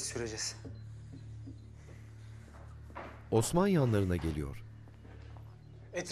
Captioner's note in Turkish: Ayak sesi